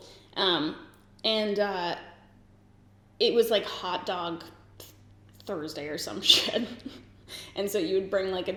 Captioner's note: giggles